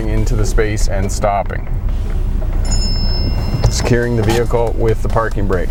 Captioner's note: cell phone ringing